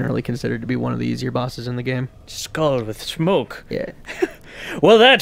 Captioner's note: chuckles